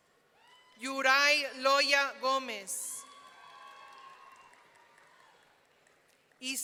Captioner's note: audience cheering